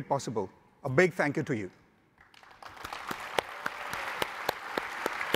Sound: audience applauding

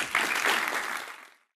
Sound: applause

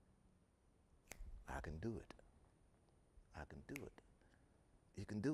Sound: snapping

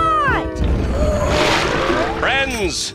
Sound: rumble coming from pool

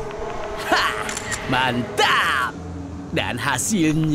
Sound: clicks

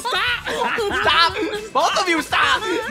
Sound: giggling

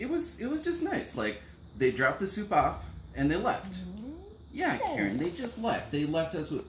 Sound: yawns

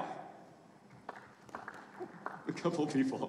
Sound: audience applauding faintly

